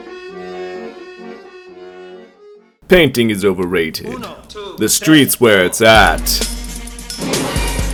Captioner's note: none